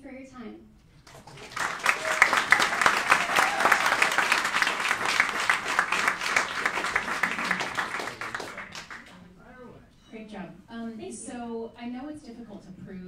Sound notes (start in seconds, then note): 1.0 applauding and cheering